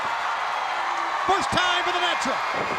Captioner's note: crowd cheering